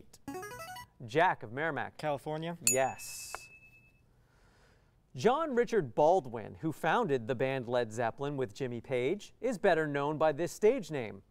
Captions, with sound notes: [player buzzer] Jack of Merrimack. California? [ding] Yes. John Richard Baldwin, who founded the band Led Zeppelin with Jimmy Page, is better known by this stage name